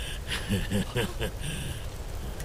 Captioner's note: Laughs